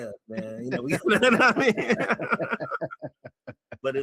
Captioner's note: all Laughing